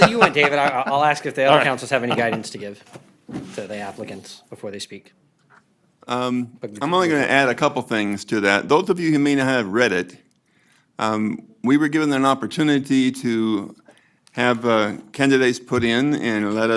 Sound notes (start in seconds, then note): 0.0 laughter